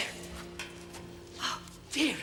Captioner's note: clattering